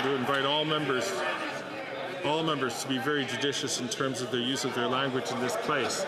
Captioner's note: some Applause